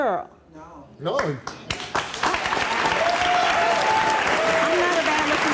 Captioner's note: audience clapping